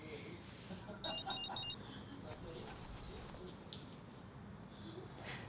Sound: cell phone rings

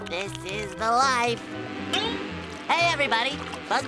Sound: buzzing

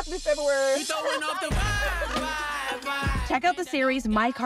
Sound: laughs

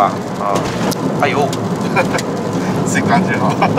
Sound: hehehehe

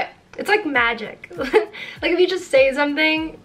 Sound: chuckles

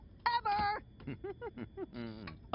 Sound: laughing

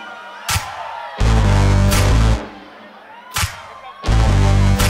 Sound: audience cheers

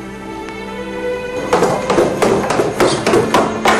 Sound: footsteps thudding

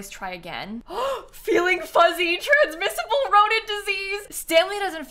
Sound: gasps

